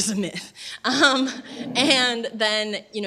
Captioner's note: laughter